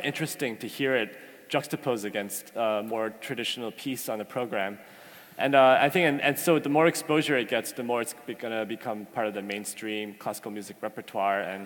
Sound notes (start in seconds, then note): none